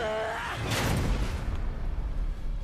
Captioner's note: Annette yelling; loud thud